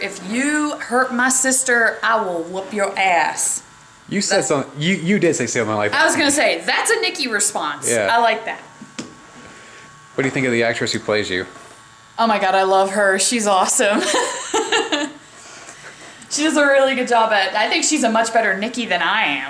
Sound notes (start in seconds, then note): 13.9 laughing